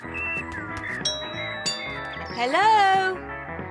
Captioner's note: doorbell rings